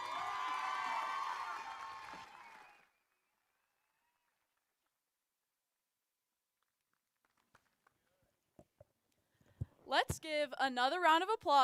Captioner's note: applause